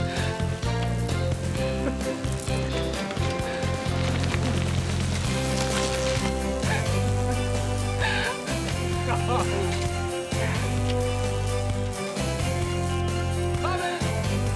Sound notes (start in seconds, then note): 8.1 both laugh